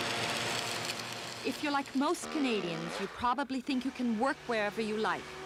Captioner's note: crackling